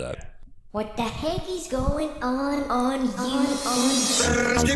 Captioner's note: high-pitched voice